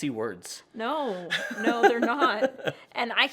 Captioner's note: laughs